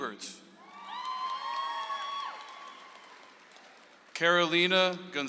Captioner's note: audience applauds